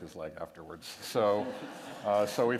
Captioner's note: laughter